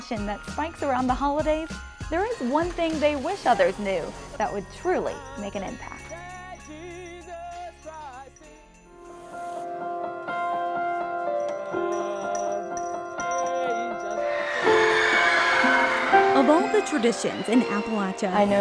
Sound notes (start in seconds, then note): 6.4 singing; 8.8 soft piano music; 11.3 bell ringing; 14.2 cheering